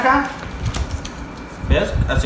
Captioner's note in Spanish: Cartón rompiéndose